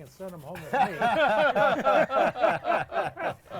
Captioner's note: group laughs